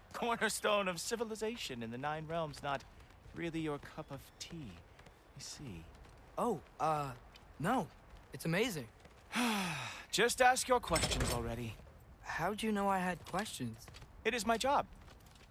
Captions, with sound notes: CORNERSTONE of civilization in the nine realms not... ...really your cup of tea? I see. OH, uh... ...NO... ...it’s AMAZING! (sigh) Just ask your questions, already. How’d you know I had questions? It is my job.